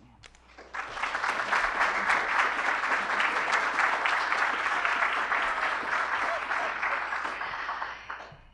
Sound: applause

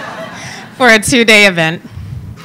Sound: laughing

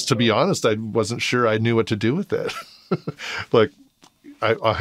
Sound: laughing

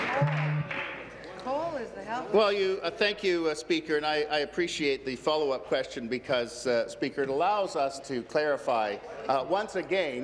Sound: applause

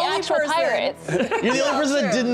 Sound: laughing

